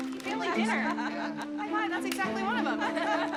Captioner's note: woman laughs